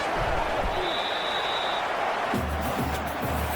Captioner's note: crowd Noises